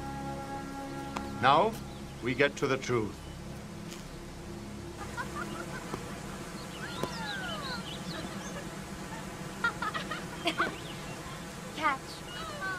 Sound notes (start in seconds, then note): 5.4 water running; 6.7 laughing